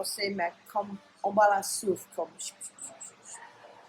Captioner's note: whispers